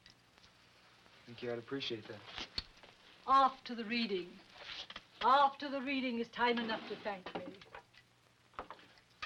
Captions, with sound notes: - Thank you, I'd appreciate that. - After the reading. After the reading is time enough to thank me. (drawer slides open)